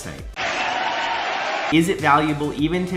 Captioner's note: cheering